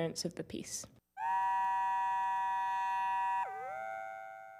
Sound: digital sound

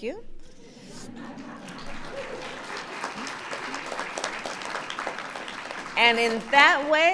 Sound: laughter and applause

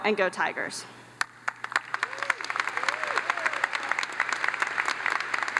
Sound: audience applauds

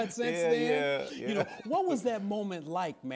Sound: laughs

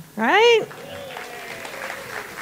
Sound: audience claps and cheers

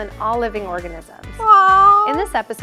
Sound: meow

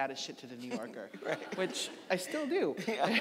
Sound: audience laughing

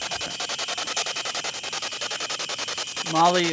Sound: static pulsing

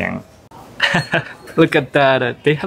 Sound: chuckles

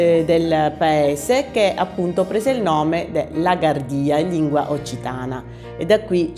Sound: in the Occitan language

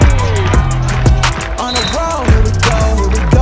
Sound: crowd clapping

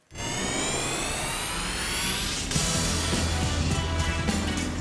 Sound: whooshing; upbeat music

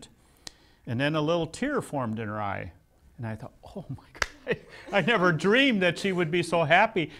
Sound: laughs

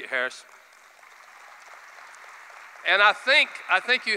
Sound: applause

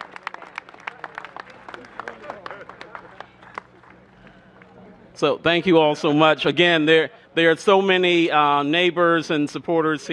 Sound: applause

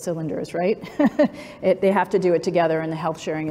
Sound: laughs

